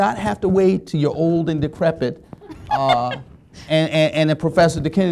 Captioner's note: laughing